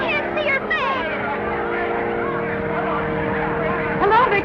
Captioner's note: commotion